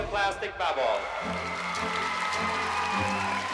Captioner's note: whooping, cheering, applause